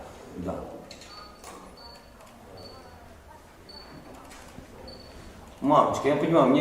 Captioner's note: beeping noises